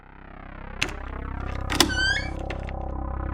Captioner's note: door opening